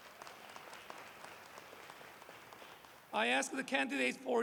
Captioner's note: applause